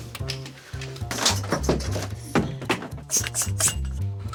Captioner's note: objects clatter; air hisses